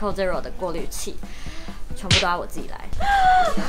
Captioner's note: inhale